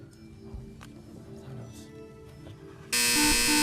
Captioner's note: buzzing